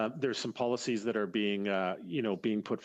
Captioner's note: speaking French